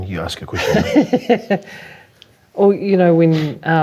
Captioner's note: laughing